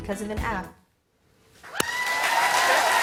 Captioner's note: cheers and applause